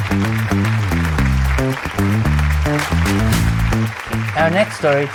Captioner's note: applause